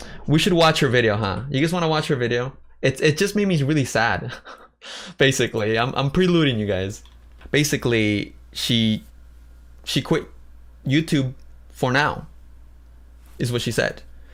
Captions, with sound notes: we should watch her video, huh? Do you guys want to watch her video? It just made me really sad, [laughs] basically. I’m preluding you guys. Basically, she-- she quit YouTube for now, is what she said.